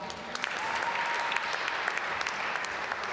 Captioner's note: applause